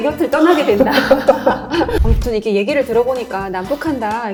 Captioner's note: sounds of laughter